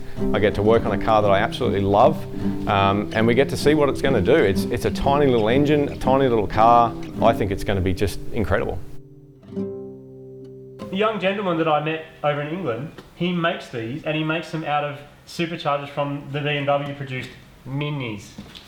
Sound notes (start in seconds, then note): none